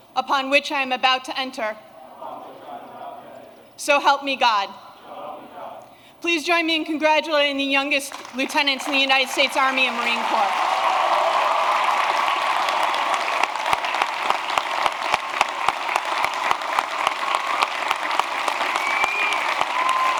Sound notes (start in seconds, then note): 11.9 applause